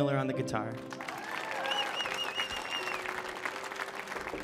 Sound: audience cheering

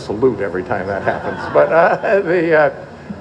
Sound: laughter

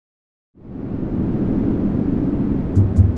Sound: olas rompiendo

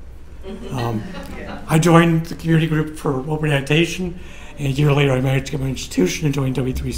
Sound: laughter

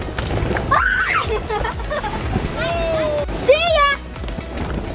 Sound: excited yell

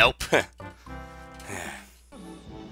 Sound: sigh

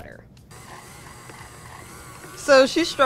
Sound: mixer whirs

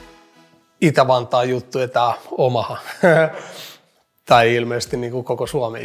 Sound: laughs

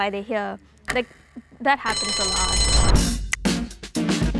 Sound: upbeat music; bell rings

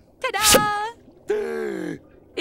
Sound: gasping

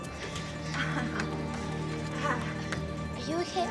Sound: grunts

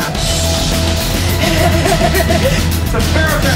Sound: laughs

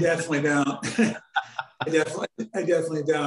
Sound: laughing

